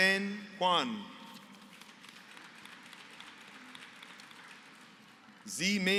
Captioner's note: applause